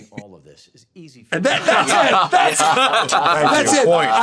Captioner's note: all laugh